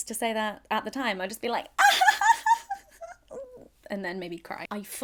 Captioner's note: giggles